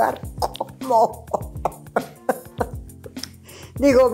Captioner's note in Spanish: risas